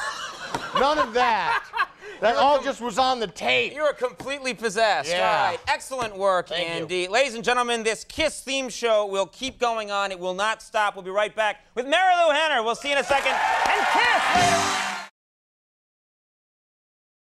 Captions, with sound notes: (laughs) None all of that, that all just was on the tape. You were completely possessed, right. Yeah. Excellent work, Andy. Ladies and gentlemen, this KISS theme show will keep going on. It will not stop. We'll be right back with Marilu Henner. We'll see you in a second. (applause) And KISS later on!